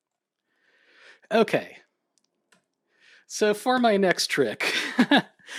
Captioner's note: chuckles